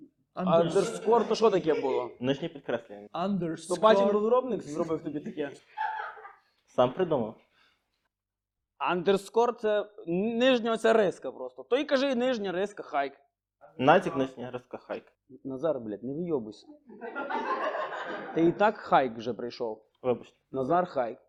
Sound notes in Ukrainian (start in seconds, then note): 3.8 говорить з англійським акцентом